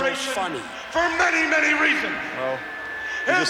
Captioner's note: crowd boos